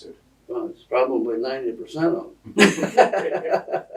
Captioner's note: laughter